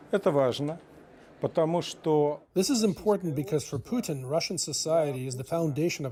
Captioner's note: speaking Alternate Language